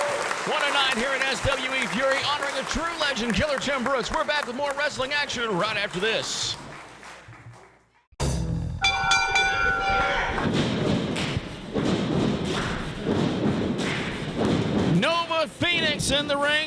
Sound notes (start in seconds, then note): 8.8 bell ringing; 9.0 crowd and stomping and clapping